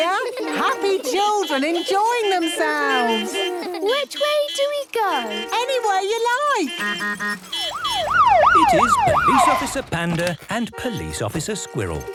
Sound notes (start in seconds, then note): 2.8 laughter; 4.0 honking, siren wailing